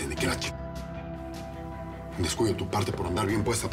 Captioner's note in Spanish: none